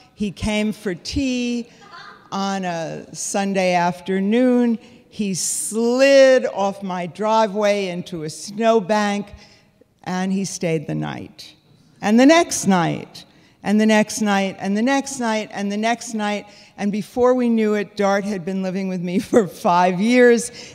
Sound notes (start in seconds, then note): none